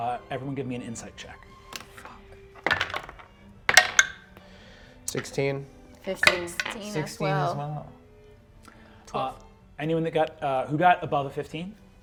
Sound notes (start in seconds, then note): 2.5 whispers; 2.6 dice rolls